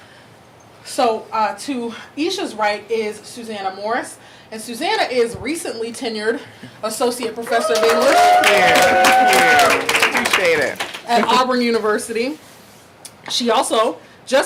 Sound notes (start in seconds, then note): 7.4 audience clapping and cheering